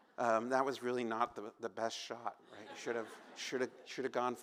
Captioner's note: laughter